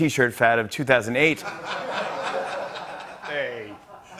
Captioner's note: laughter